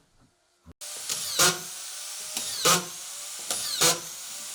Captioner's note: machine whirs